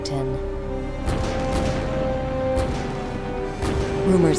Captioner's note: cannon fire